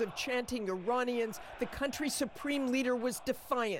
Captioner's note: crowd chanting